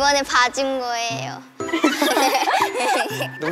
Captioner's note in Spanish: Ja ja ja